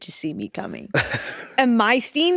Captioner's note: Eddy chuckling